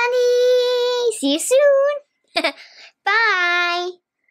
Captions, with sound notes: See you soon. (laughs) Bye.